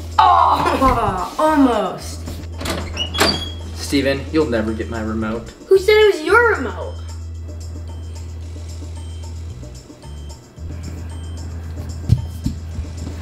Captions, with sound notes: Ah! (laughs) Almost! (door latch turning) (door creaking) - Stephen, you'll never get my remote. - Who said it was your remote? (suspenseful music)